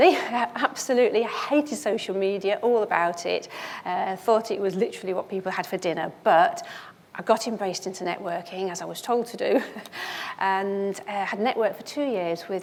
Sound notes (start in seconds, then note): 9.5 chuckles